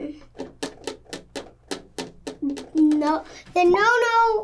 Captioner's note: taps fingers